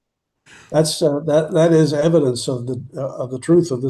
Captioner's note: laughing